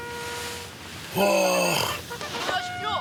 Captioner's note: moans instead of answering